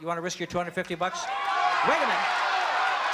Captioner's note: shouting